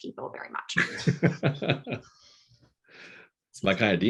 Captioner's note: laughing